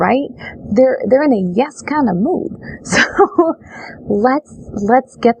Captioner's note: laughs